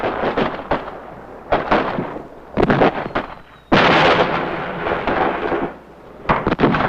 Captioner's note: explosions booming; missiles whistling